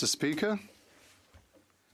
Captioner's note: speaking French